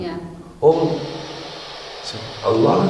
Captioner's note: static